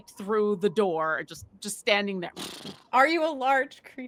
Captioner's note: blows out air